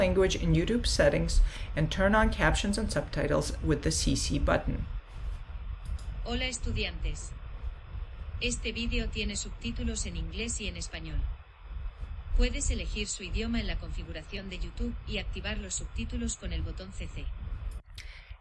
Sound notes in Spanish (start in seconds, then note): 4.9 Español